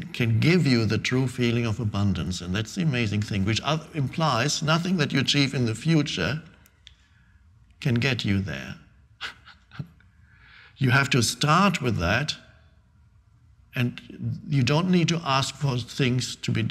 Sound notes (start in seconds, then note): 9.2 Eckhart laughing